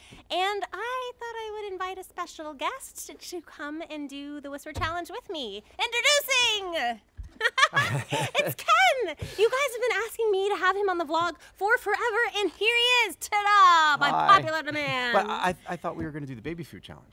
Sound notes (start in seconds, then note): 7.4 laughs